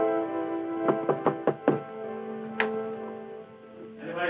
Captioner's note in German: klopfen